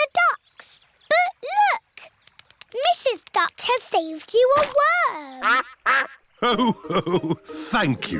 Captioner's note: quacks